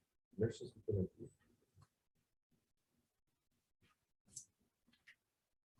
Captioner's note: indistinct conversation